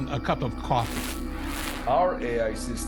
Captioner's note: static crackling